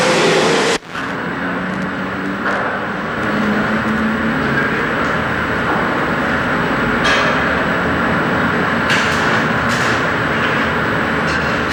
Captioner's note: clanging, welding background noise, and inaudible dialogue